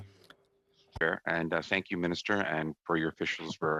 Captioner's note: speaking French